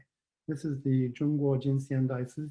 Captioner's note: speaks foreign language